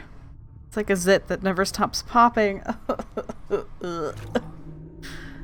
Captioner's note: disgusted laughter